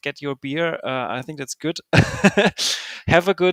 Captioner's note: laughing